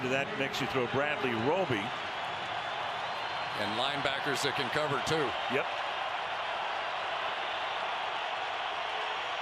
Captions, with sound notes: And then into that mix you throw Bradley Roby. And linebackers that can cover too. Yep. [crowd cheering]